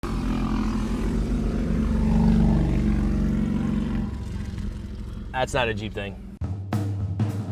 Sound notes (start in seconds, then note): 0.0 motorcycle engine revving